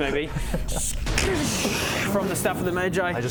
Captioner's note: scxszsccchhhsdchssshhhhhh